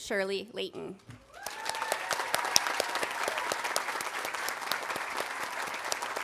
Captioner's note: audience cheering and applauding